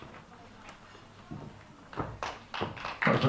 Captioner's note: applause